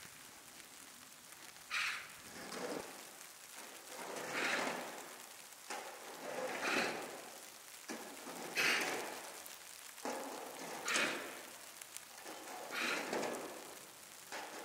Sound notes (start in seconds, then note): 0.0 snow flurry, bird; 2.7 snow flurry, sound of a shovel shoveling snow, bird